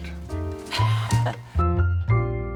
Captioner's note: Laura laughs; gentle music